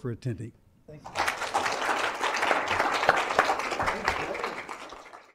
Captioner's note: applause